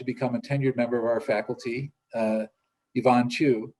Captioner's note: speaks foreign language